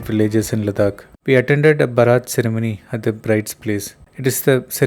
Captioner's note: hindi